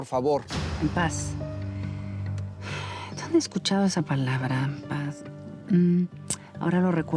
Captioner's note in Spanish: exhala